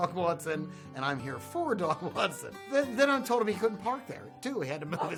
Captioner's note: laughter